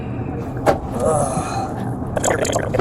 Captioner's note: grunting